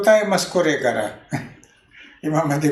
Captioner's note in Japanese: 笑い声